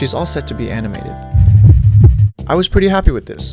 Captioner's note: beatboxing noises